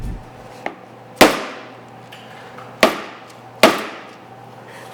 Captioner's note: tray thuds